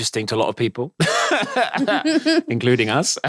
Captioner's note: both laughing